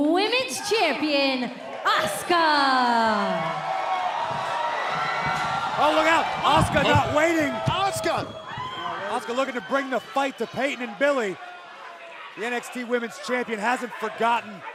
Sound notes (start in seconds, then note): 3.1 cheers and applause